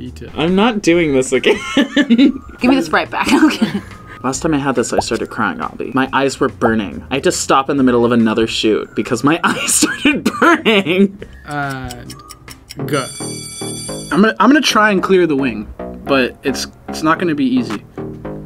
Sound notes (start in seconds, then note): 3.2 laughs; 12.9 bell rings